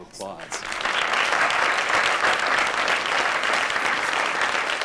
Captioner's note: applause